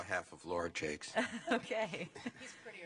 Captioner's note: laughter